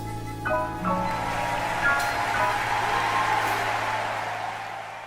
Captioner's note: audience applauding